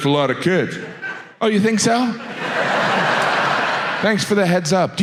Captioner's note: audience laughs